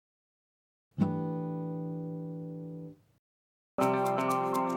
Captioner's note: chime sounds